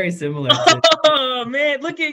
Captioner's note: laughs